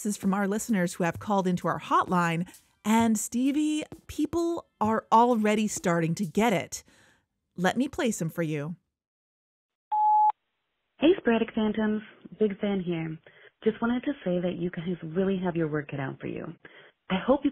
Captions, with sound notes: from our listeners who have called into our hotline. And Stevie, people are already starting to get it. Let me play some for you. (music stops) (beep) VOICEMAIL 1 Hey Sporadic Phantoms, big fan here- just wanted to say you guys really have your work cut out for you.